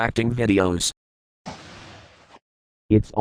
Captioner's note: muffled door sound